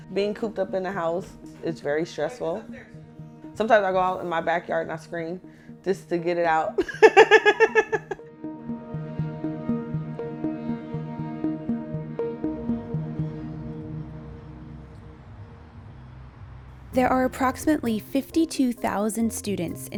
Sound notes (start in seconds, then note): 6.8 laughs; 8.8 slow music